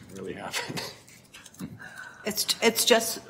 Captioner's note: laughs